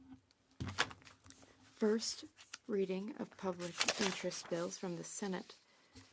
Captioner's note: speaking French